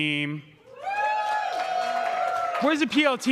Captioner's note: crowd cheering